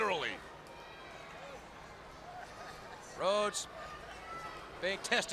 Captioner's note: crowd chatter